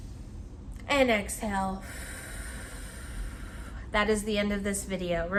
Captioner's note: inhales deeply; exhales sharply